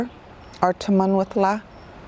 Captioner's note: speaks in foreign language